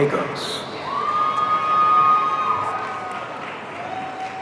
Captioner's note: audience cheering